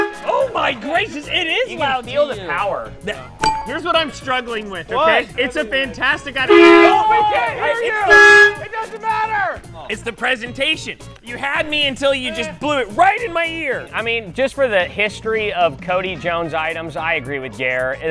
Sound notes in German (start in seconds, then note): 6.4 horn blares